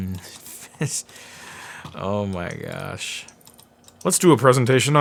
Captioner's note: laughing